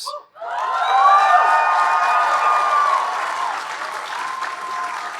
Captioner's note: audience cheering and applauding